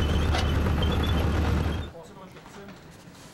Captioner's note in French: bruit du moteur